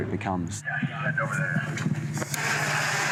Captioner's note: man through radio